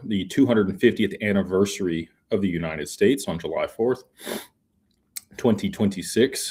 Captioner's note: snorts